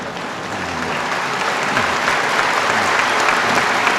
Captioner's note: applause